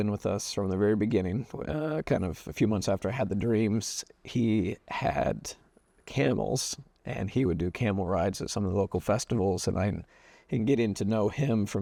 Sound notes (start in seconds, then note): none